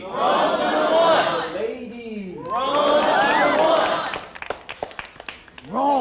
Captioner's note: crowd